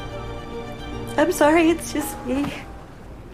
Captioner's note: voiceover